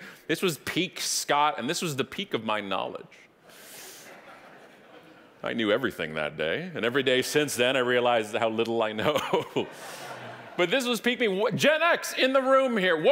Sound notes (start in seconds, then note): 4.0 audience laughing; 9.0 chuckling; 9.0 audience laughing